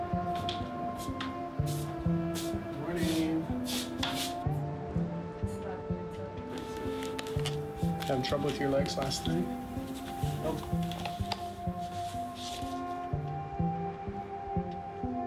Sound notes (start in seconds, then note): 0.3 wheel chair rolling